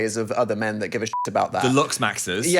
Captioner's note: beep